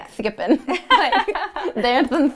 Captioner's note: laughter